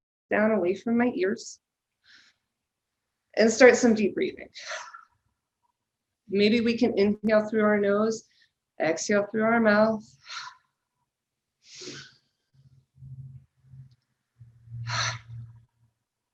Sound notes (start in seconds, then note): 2.0 inhales deeply; 5.2 exhales sharply; 8.0 inhales deeply; 11.7 exhales sharply; 11.8 inhales deeply and exhales sharply